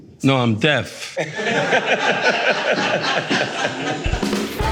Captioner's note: laughing